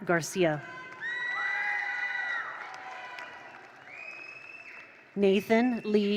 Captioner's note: attendees cheer; attendees applaud